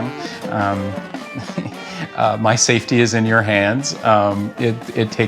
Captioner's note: laughs